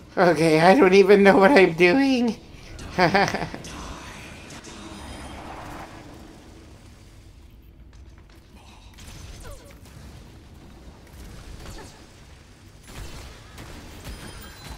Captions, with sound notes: Okay! I don't even know what I'm doing! [haha – laughter]